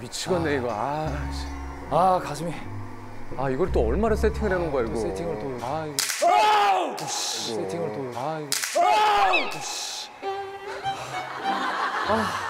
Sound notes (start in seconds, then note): 6.8 crackling